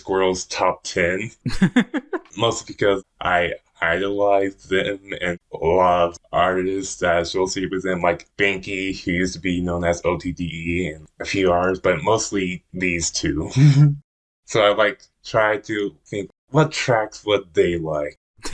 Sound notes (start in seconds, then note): 1.4 laughs; 13.5 laughs